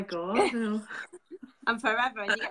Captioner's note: both laughing